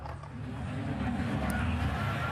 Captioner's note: whistling